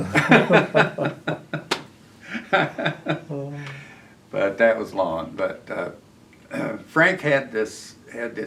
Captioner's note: laughter